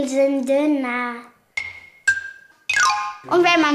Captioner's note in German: Klimpern